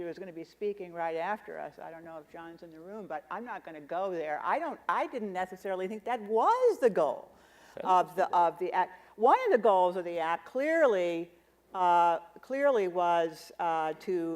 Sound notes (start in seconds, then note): none